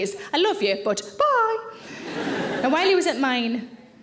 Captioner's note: audience laughing